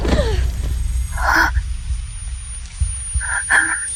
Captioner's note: gasping